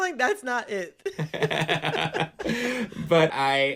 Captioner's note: laughter